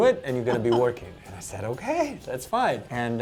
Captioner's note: laughs